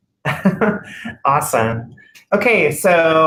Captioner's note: laughter